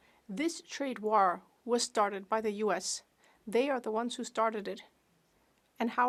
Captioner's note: speaking French